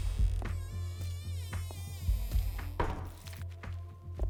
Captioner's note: squelching